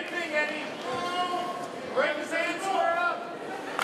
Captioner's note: crowd yelling